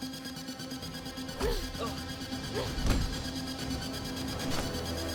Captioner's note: intense music; Olive grunting